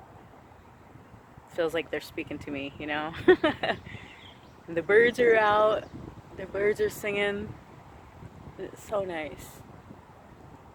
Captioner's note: laughs